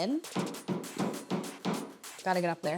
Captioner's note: hammer taps